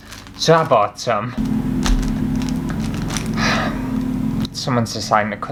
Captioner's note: loud Lawnmower